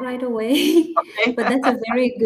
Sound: laughter

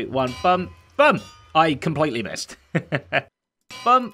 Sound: chuckles

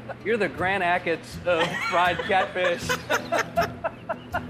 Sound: laughing

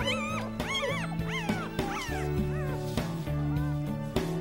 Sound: puppy squealing

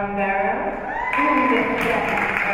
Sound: spectators cheering and applauding

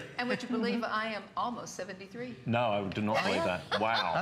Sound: laughter; laughter

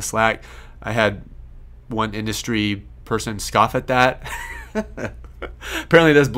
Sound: laughs

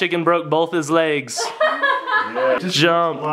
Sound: laughing

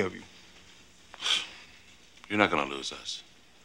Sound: scoffs

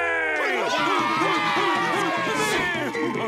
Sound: cheering

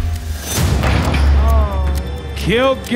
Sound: ball thudding

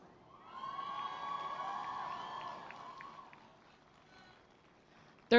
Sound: cheering

